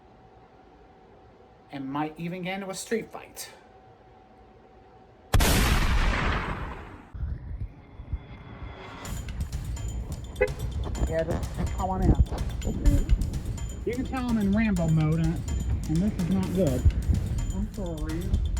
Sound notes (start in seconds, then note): 5.3 gunshot; 9.0 Music, SUV honks; 16.9 altered/distorted